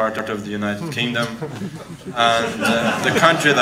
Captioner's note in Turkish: kahkahalar